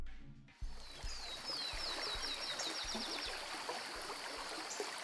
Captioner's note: birds chirping